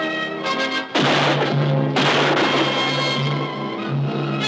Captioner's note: gunshots firing